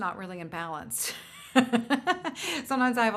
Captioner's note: laughs